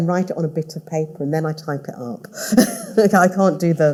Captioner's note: all laughing